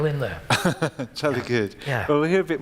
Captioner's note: laughs